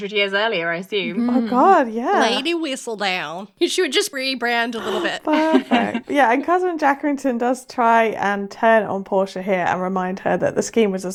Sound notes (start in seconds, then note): 2.3 mimicking Southern accent